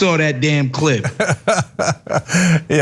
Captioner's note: laugh